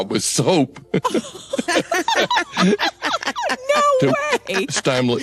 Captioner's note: laughter